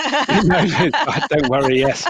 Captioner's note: laughter